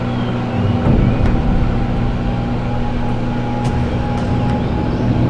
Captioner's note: cutting board knocking